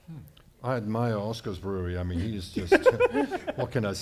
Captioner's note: laughter